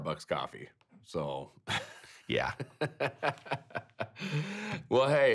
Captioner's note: laughing